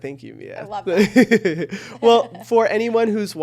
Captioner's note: chuckles